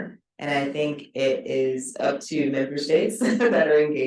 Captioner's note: chuckles